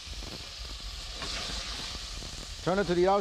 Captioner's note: meat sizzles